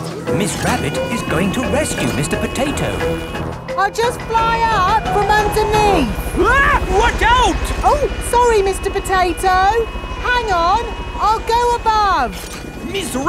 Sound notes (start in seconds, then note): 6.7 screams